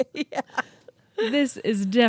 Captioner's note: laughs